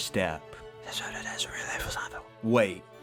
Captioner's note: whisper